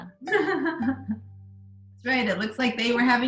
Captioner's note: laughing